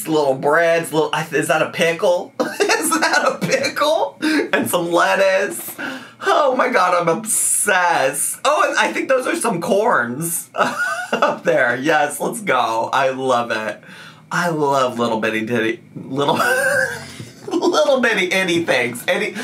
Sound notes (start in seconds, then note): 2.5 laughing; 10.6 laughing